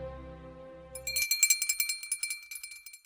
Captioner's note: bell ringing